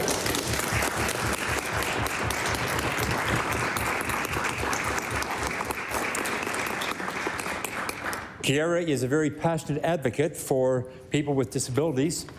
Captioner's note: applause